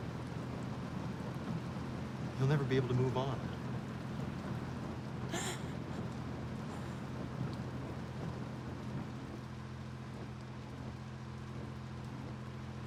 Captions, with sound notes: you'll never be able to move on. (Jamie gasps)